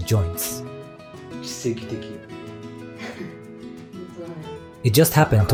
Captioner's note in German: lacht